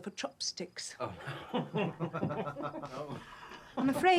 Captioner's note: men laughing